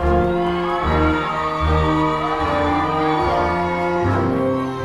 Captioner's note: crowd cheering